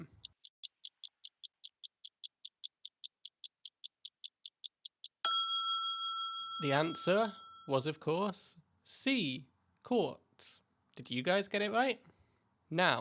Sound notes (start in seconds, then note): 0.0 ticking Sound; 5.0 ding